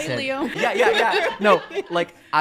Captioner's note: laughing